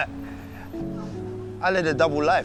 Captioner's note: laughs